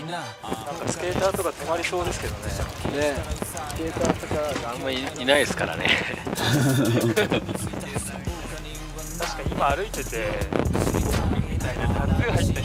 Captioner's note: wind blowing too loud